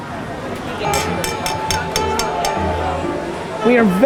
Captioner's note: glass clinking